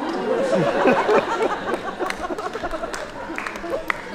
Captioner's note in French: rires